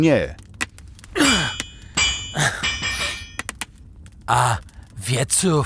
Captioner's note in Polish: dźwięk kucia stali